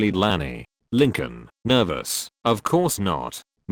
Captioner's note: nervous